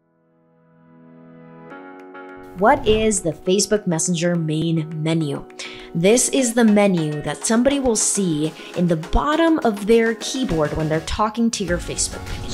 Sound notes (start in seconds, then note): 0.1 upbeat ambient music; 2.6 swoosh; 12.2 swoosh